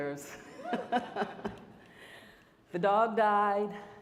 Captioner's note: audience laughing